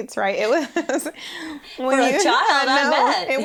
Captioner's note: laughs